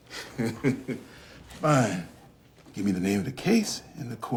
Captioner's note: laughs